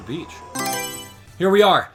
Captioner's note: Mario Selection Sound